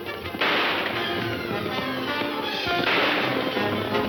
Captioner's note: gunshot; horses gallop; gunshot